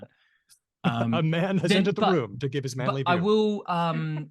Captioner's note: laughs